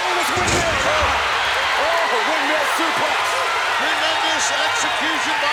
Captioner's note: crowd cheers